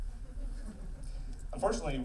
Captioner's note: laughing